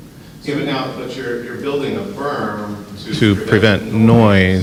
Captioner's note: voiceover